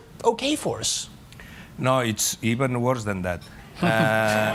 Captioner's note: laughter